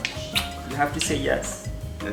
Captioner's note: lips smack